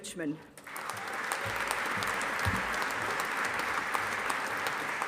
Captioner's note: audience applauding